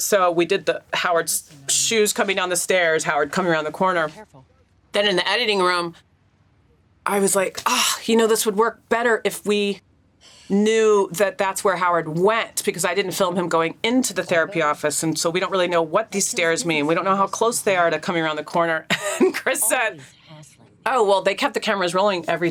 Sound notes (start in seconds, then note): 7.9 sighs; 18.9 chuckles